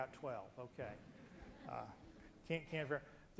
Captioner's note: loud laughter